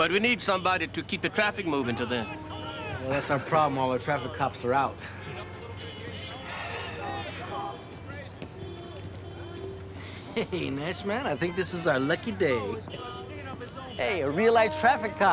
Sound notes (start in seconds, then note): 6.4 sighs; 10.0 chuckles